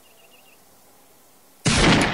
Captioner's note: gunshot